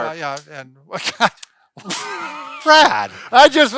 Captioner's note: laughing